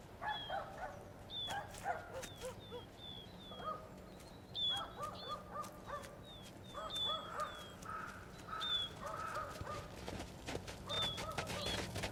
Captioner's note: barking